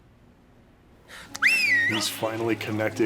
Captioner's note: whistles